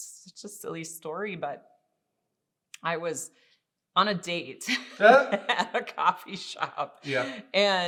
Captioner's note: laughing